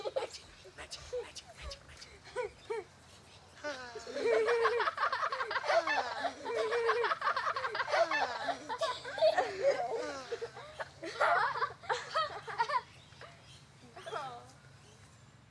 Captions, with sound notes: - Magic, magic, magic, magic, magic. Ha, ha! (children laugh) Ha, ha, ha. (children giggle)